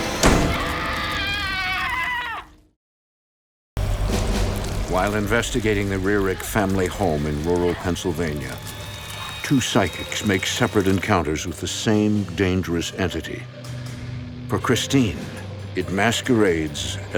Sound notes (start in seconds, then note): 0.5 screaming; 3.8 air whooshes